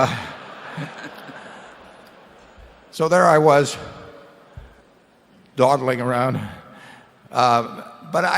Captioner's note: laughter